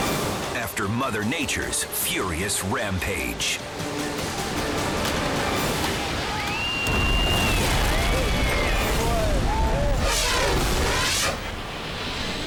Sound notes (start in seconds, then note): 4.4 building rumbles; 4.8 bystander screams; 10.3 air whooshes